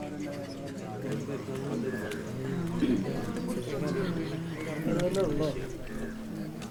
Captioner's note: indistinct chatter